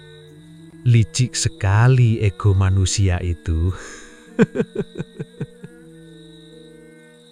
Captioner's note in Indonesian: tertawa